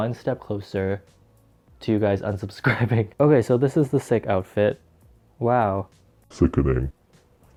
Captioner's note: laughs